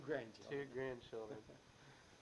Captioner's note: both chuckle